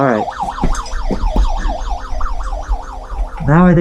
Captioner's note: siren continues; siren sounds